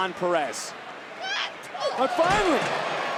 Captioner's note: Roxanne yelling